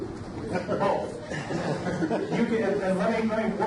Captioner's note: audience laughs